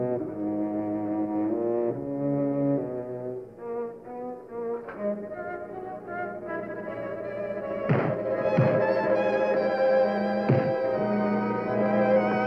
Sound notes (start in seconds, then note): 7.8 thump